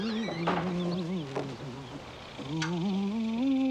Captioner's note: Nannie humming